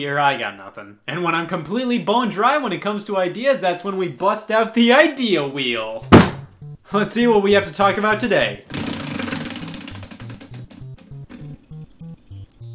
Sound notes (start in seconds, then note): 6.1 slams; 8.7 wheel whirring